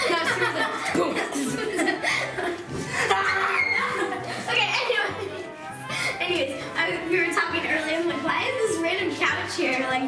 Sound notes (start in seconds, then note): 2.5 laughing